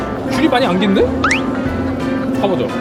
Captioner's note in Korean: 울먹